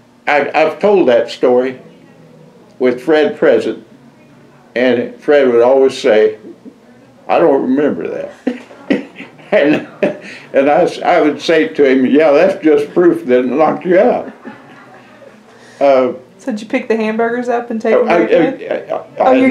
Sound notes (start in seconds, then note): 10.1 laughter